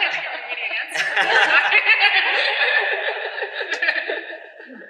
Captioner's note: laughter